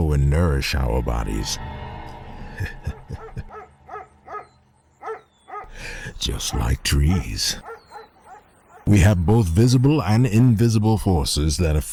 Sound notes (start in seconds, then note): 2.5 laughing; 5.0 dog barking